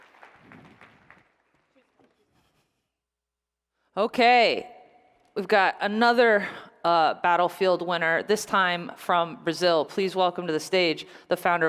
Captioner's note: applause